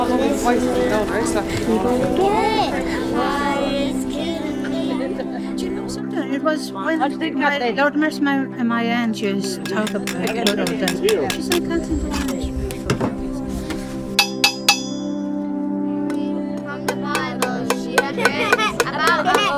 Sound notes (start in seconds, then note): 0.2 singing; 7.3 chatter trails off; 16.9 children singing